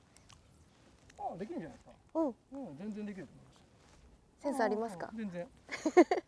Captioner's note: laughs